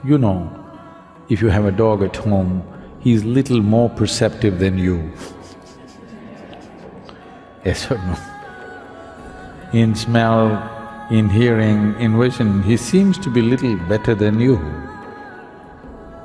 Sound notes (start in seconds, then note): 5.1 laughs